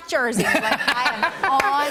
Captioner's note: laughter